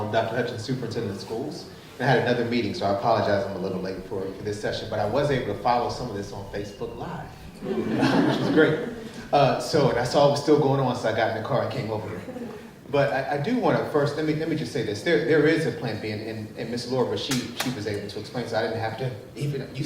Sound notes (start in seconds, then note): 7.5 chuckling; 7.5 group chuckling